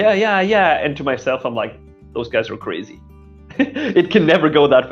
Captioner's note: laughing